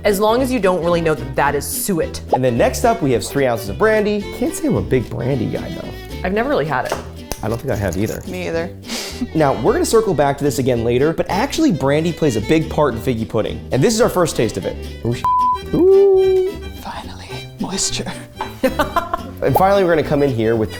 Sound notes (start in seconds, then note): 15.2 beep; 18.6 laughs